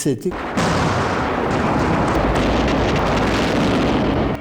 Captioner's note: explosions booming